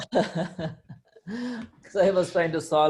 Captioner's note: laughs